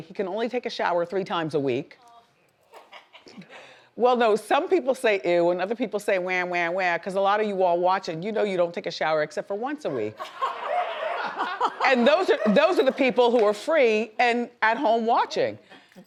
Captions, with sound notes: he can only take a shower three times a week. Oh! (woman laughs) Well, no, some people say, ew, and other people say whe-whe-whe, because a lot of you are watching, you know you don't take a shower except for once a week. (audience laughs) And those are the people who are free and at home watching.